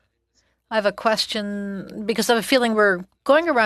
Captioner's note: speaking french